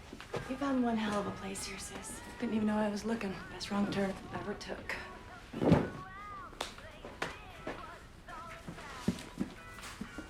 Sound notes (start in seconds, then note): 6.5 hands smacking